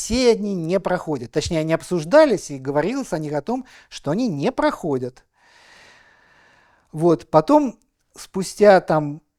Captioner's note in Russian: тяжело вздыхает